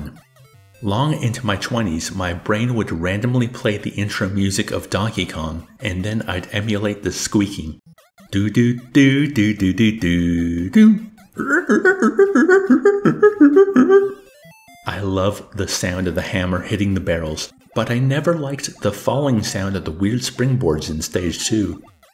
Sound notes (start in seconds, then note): 7.7 emulating music and squeaking